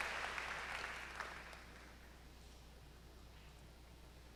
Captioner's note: applause